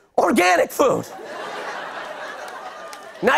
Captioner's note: laughter